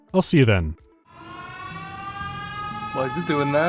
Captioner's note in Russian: звучит сирена